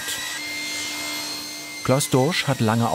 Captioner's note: machine squeak